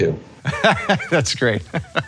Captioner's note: laughs